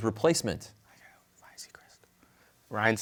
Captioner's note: whispers